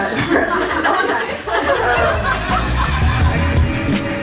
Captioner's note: laughter